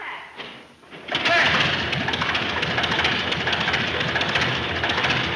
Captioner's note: engine puttering